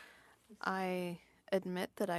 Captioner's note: speaking French